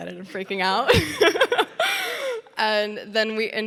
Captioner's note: Sydney laughing